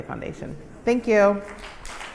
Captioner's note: applause